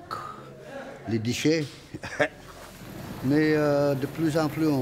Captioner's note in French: petit rire